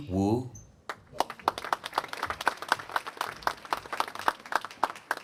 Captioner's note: applause